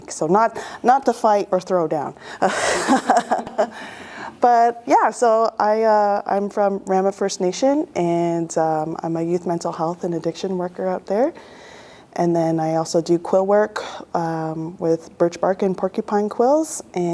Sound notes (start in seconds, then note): 2.4 laughter